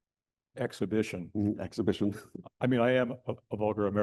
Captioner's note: chuckles